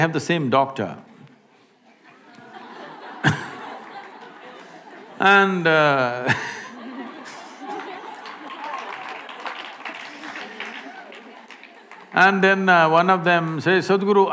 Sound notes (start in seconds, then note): 2.0 laughter; 7.2 applause